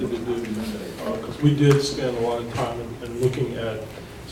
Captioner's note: speaking faintly